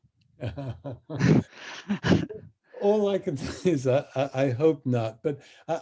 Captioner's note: chuckles